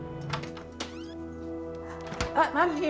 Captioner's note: door creaks